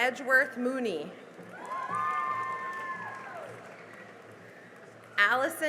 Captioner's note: cheering and applause